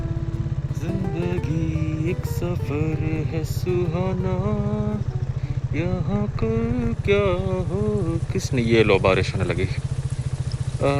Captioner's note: humming old song